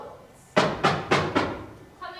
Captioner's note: there is a knock on the door